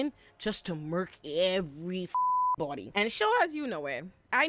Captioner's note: beep